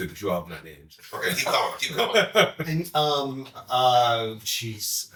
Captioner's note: chuckling